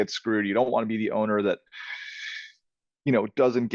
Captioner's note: inhaling